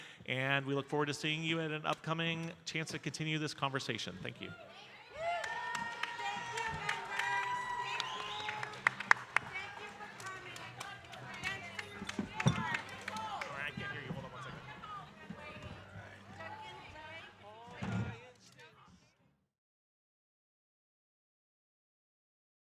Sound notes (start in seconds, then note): 5.6 audience cheering; 11.3 people chattering